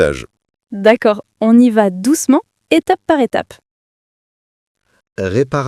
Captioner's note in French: rire